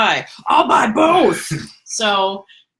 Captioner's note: laughs